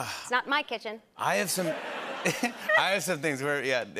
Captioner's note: laughter